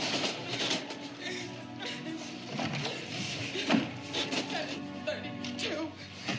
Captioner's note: cart clattering; crying